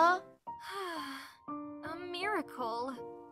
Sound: sigh

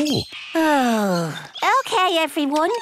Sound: sighs

